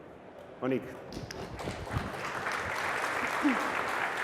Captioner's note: applause